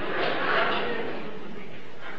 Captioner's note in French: rires